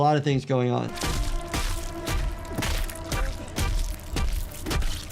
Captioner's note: head smashing